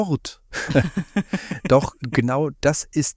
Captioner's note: laugh